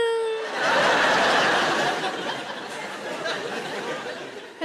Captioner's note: audience laughing